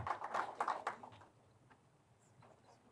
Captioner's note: applause